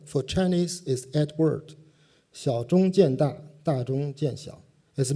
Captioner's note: non-english speech